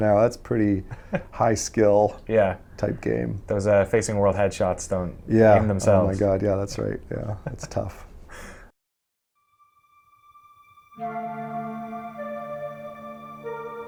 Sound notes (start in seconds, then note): 7.4 interviewer laughs; 9.4 ethereal music